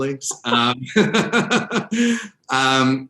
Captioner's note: both laugh